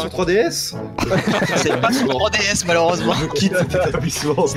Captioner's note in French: rires